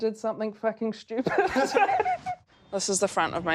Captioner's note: laughs